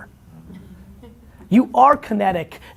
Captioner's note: chuckling